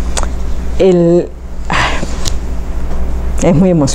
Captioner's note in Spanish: suspira